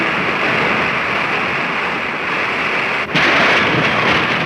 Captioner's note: rushing water